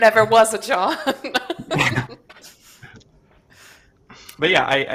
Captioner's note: laughs